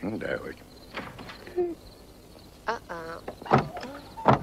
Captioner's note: latch clicks